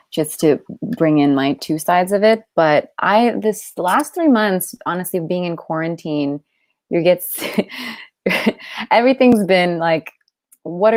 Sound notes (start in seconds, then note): 6.9 chuckles